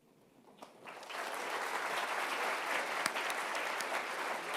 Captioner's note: applause